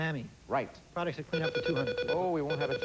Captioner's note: beep-beep